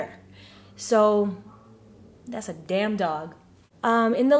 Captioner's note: barking in background